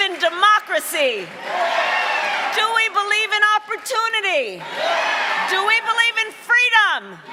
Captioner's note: cheering and applause